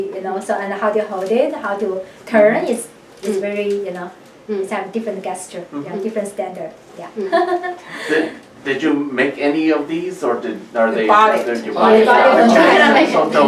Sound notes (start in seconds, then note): 7.2 laughs